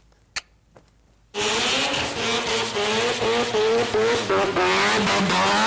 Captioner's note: engine revving